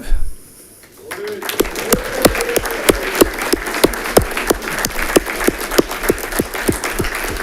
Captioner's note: audience clapping